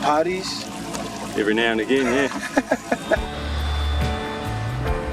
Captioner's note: laughing